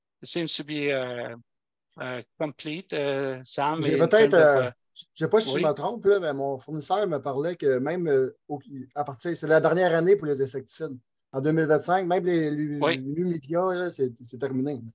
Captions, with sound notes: It seems to be complete. - (speaking foreign language)